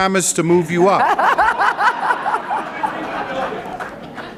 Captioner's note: laughter